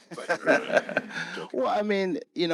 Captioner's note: groans; laughing